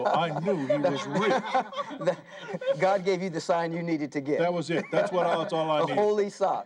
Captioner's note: laughter